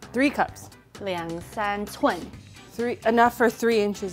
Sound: speaking in mandarin

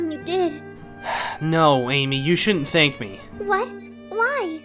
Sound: sighs

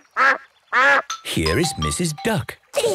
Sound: quacks

